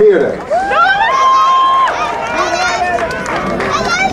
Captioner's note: crowd cheering